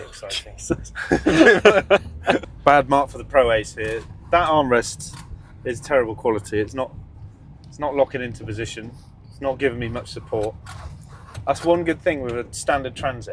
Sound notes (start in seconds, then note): 0.0 laughing